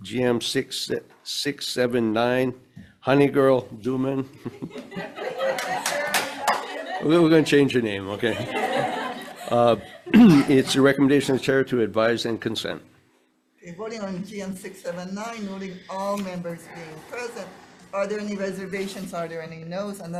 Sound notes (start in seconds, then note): 4.5 audience laughs